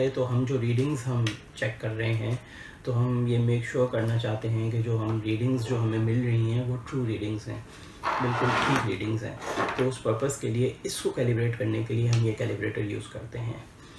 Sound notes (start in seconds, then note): 8.0 creaky noise